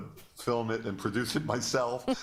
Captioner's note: laughter